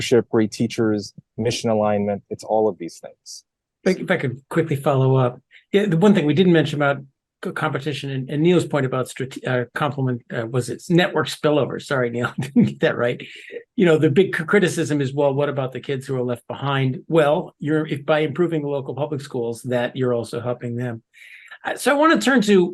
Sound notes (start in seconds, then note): 12.1 laugh